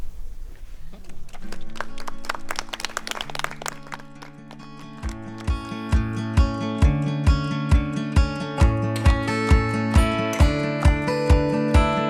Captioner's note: applause